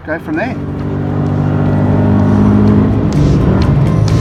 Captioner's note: engine roars; rock music